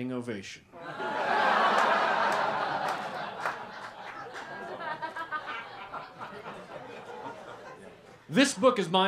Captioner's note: laughter